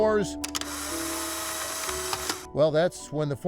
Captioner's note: camera snapping